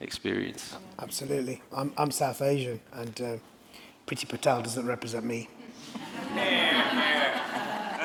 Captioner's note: laughter